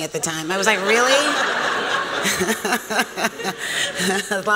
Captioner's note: laughter